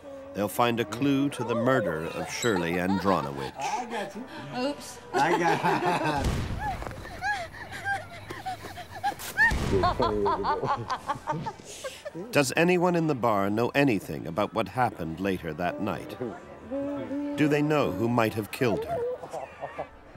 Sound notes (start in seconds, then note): 6.5 laughing; 7.0 screaming